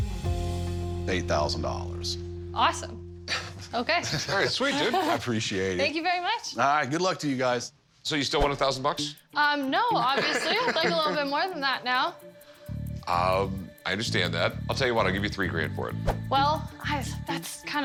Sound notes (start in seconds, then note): 3.3 Rick chuckles; 9.9 laughs